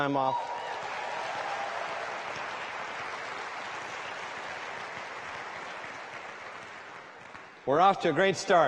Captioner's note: applause